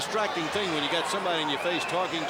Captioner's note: crowd cheering